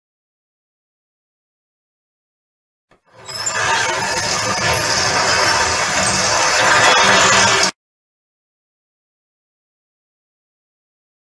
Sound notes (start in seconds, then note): 3.1 garage door screeching